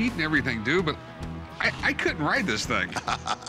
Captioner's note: chuckling